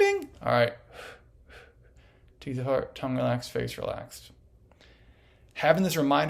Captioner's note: exhales